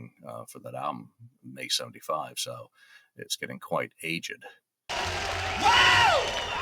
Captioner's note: screaming